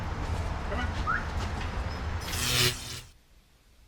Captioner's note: whistles; electrical zapping